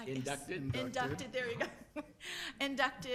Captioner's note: chuckles